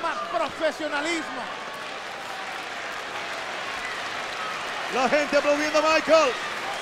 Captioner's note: applause